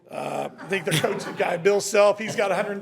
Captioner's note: members laughing